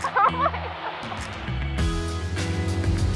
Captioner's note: giggles; upbeat music